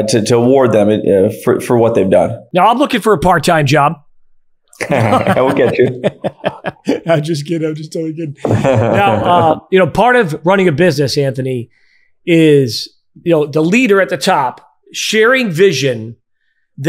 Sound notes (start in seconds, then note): 4.8 both laughing; 8.4 chuckles